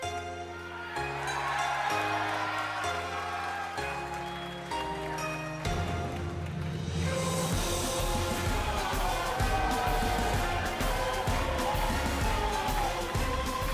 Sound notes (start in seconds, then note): 2.1 crowd cheering